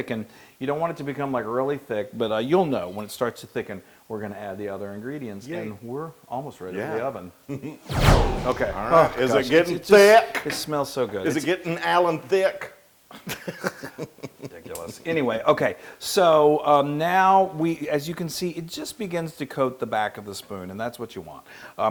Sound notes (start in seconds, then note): 13.0 laugh